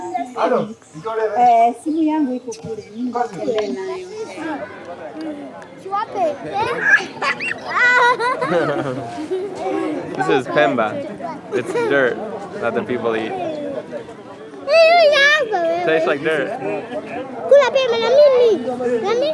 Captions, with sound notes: (laughing) This is pemba, it's dirt that the people eat. (speaking in foreign language) It tastes like dirt.